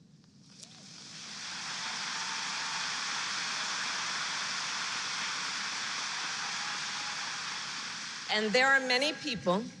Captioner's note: applause